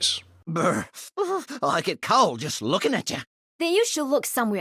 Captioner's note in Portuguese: grunhido de frio